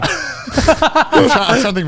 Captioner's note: everyone laughs